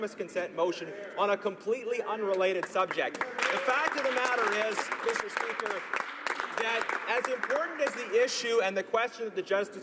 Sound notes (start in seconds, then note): 6.2 applause